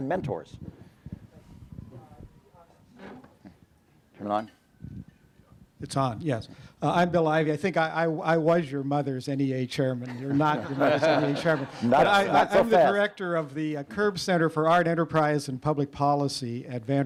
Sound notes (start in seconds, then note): 10.0 laughter